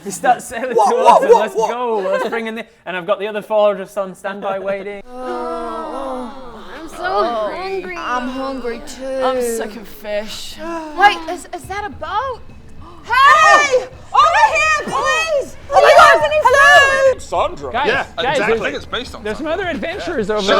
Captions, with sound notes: You start sailing towards them - What what what let's go Let's bring in the- And I've got the other four just on standby waiting *groans* I'm so hungry I'm hungry too I'm sick of fish Wait, is that a boat? Hey! Over here, please! Oh my god! - Do you have any Hello! - food? Sondra? Guys! Exactly I think it's based on Sondra There's some other adventurers over there